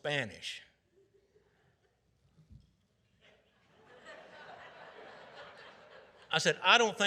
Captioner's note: audience laughing